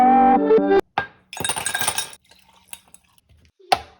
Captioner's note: glass clinking; liquid sloshing